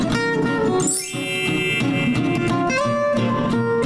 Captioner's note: guitar music; wind chimes; guitar music